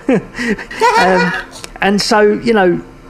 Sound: both chuckling

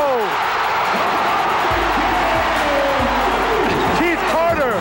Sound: cheering

